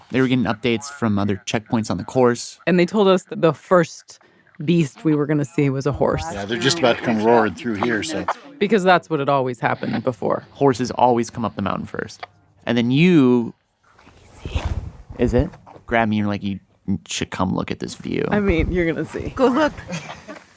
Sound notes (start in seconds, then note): 14.6 whispers